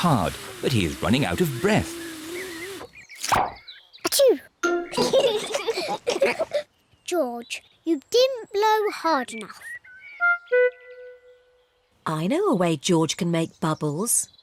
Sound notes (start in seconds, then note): 4.1 sneezes; 4.9 both giggle